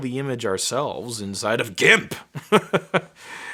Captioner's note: laughing